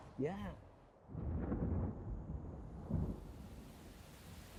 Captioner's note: sound of thunder in the distance